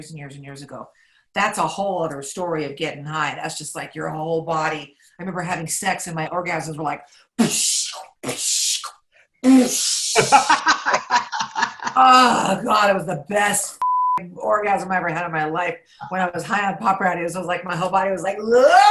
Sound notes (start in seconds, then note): 10.1 laughs; 13.8 beep